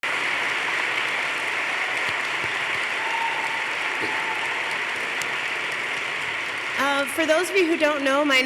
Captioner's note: applause